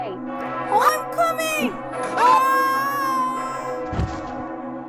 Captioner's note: screams; body thuds to ground